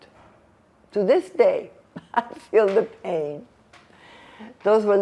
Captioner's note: laughing